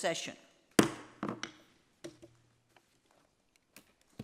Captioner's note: gavel knocking